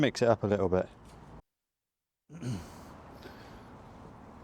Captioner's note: clears throat